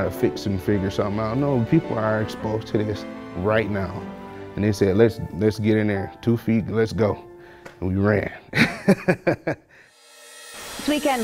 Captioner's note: laughs